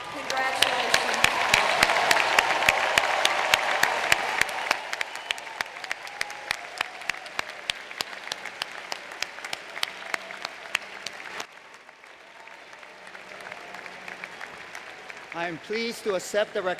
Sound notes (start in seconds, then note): 9.7 applause